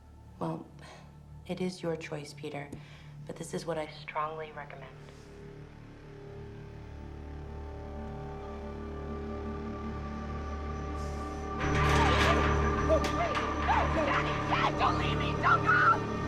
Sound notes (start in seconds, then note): 5.1 tense music; 11.5 gate clattering